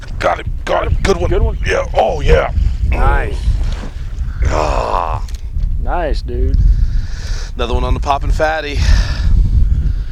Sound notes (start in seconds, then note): 4.3 groans